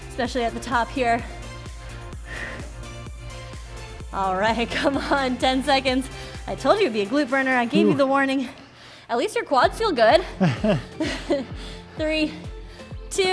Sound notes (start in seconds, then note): 1.2 breathes heavily; 1.7 upbeat music; 10.2 laughs